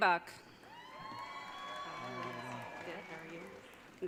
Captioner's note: audience cheering